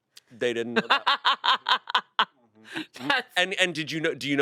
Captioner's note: laughs